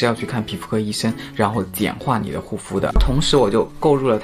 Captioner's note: steps